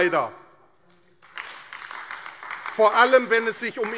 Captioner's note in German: Beifall AfD